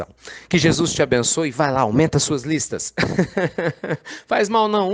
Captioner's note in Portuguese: Risos